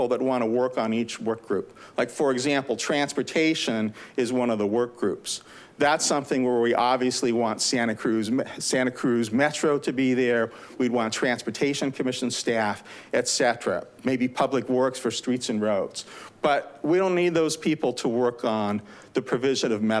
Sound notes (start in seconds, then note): none